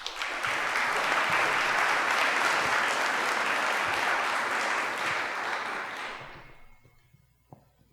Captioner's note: applause